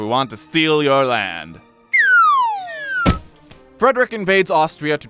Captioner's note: sad slide whistle as Frederick is kicked out of Maria Theresa’s home